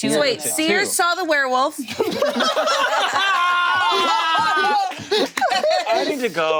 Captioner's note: group laughing